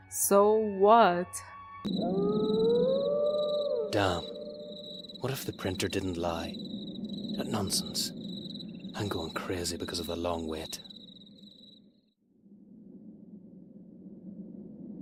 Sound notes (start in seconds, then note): 1.8 awooo; 1.9 crickets